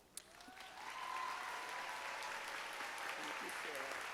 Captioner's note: audience applauds